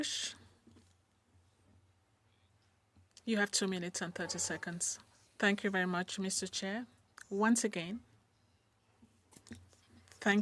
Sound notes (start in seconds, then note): 2.6 speaking in French